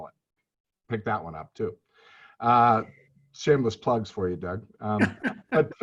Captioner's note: chuckles